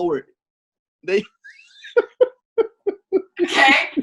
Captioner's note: laughs